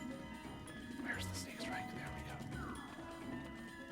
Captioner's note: whisper